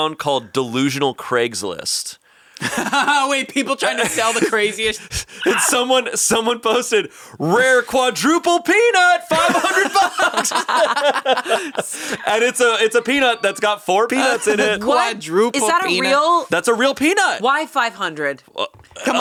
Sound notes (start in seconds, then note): 2.6 laughs; 9.2 all laughing